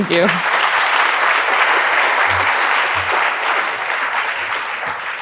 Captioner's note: audience applauds